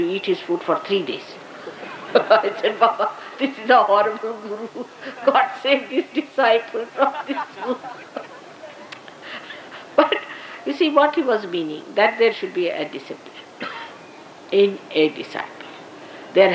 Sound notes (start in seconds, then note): 6.5 Shri Mataji laughs